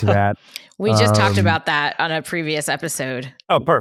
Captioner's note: laughs